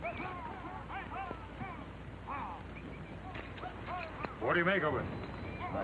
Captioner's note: men whistling; men yelling